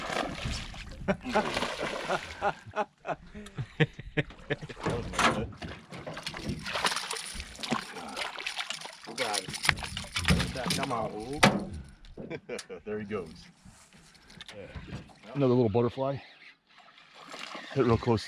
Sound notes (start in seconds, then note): 0.0 fish splashing; 1.8 chuckling; 2.9 fish splashing; 6.0 chuckling; 10.6 fish splashing; 12.2 chuckling; 14.4 reel cranking